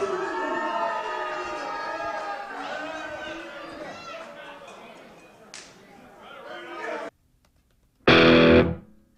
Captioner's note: crowd Boo; hard Rock Intro